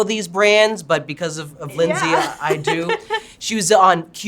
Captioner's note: chuckles